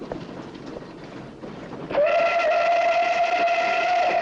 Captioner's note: train whistle